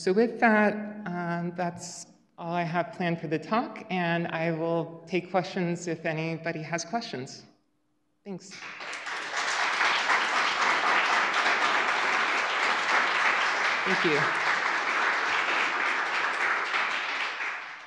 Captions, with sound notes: So with that, that's all I have planned for the talk, and I will take questions if anybody has questions. Thanks. (applause) Thank you.